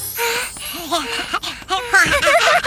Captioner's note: Rachel panting; laughter